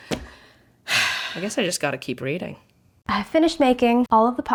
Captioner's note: sighs